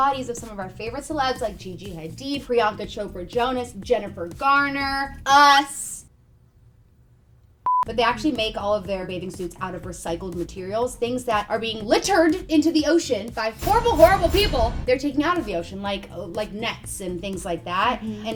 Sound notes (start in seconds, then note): 7.6 beep